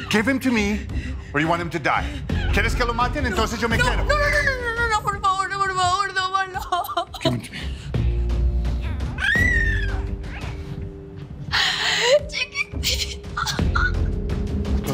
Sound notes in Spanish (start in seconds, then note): 6.4 Sollozos; 8.8 Gorjeos del bebé